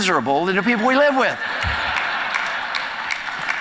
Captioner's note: audience laughter; applause